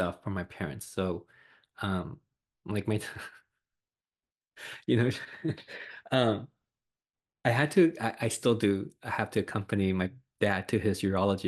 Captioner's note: laughs